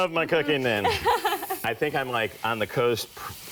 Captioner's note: laughs